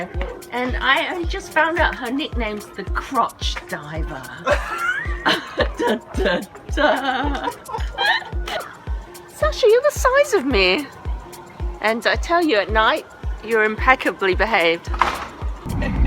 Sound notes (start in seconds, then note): 4.4 laugh